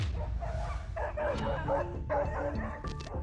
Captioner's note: tense music; barking